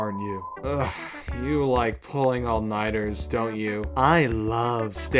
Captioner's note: tired